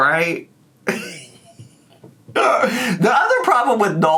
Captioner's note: snickering